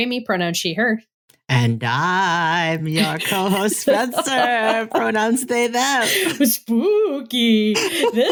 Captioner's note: in a ghostly voice